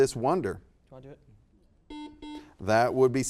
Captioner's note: buzzer beeping